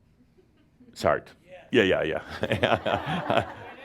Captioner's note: laughter